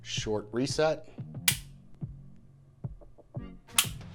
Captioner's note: trigger clicks